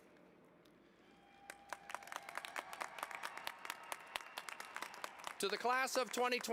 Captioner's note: applause